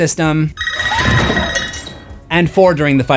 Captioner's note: screams